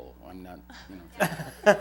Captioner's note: laughter